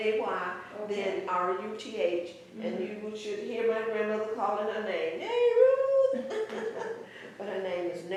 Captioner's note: laughter